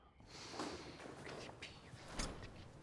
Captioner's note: whispering